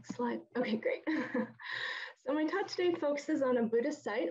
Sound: laughs

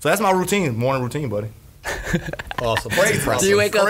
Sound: laughs

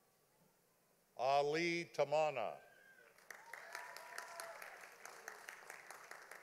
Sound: audience applauding

